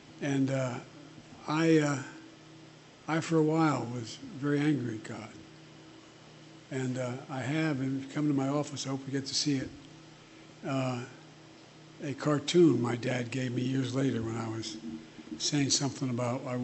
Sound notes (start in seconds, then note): none